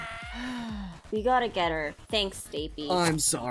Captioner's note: sigh